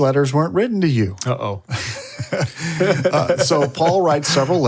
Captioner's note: all laugh